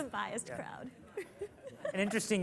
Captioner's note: laughs